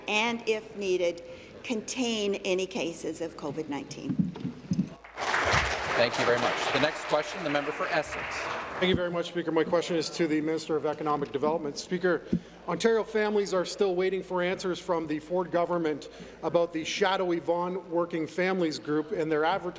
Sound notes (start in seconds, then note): 7.9 applause